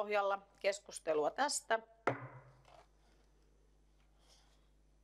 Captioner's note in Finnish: Nuijan kopautus